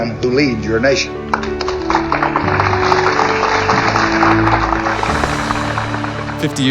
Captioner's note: applause